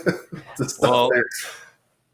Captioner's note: both laugh